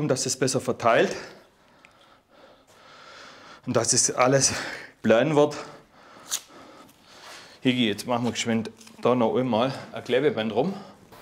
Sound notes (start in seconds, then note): 1.1 concentrated breathing